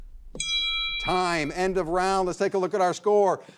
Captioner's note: bell rings